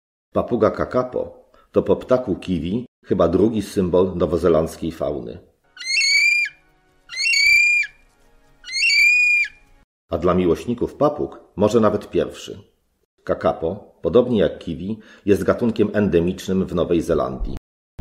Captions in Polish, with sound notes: Papuga kakapo to po ptaku kiwi chyba drugi symbol nowozelandzkiej fauny. [piskliwy głos ptaka] A dla miłośników papug - może nawet pierwszy. Kakapo, podobnie jak kiwi, jest gatunkiem endemicznym w Nowej Zelandii,